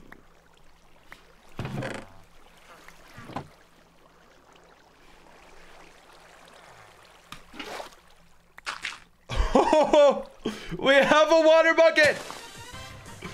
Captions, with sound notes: [laughing] We have a water bucket!